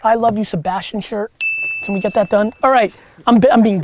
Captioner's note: bell dings